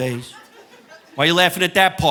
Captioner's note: person laughing